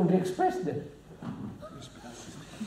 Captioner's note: laughs